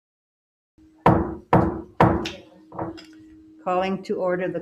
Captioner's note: pounding gavel